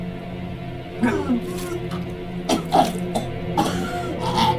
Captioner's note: Anne coughing; Anne vomiting